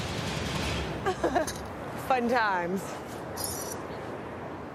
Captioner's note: laughs